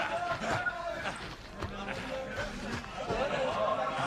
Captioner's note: Tepuk tangan